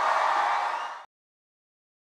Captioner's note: cheers